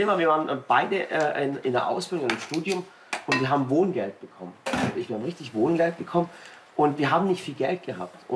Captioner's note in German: none